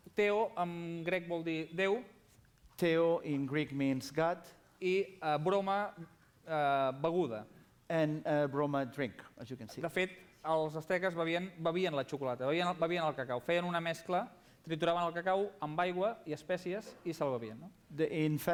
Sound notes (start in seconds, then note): 1.3 non-english speech; 6.1 non-english speech; 13.4 non-english speech